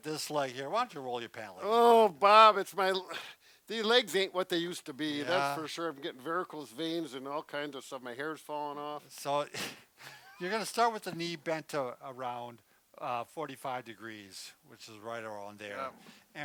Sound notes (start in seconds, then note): 10.0 both laughing